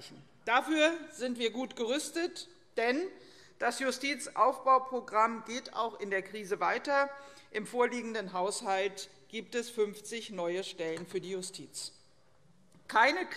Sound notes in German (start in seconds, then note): none